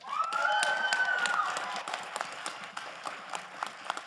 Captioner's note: crowd applauding